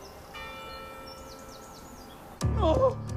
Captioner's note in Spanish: Campanadas